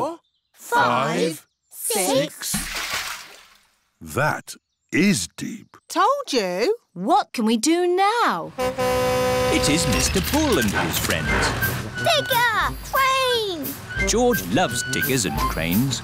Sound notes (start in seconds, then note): 2.4 splash; 8.5 horn honks